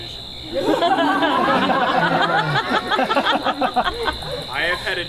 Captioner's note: audience laughs